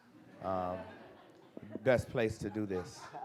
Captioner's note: audience chuckles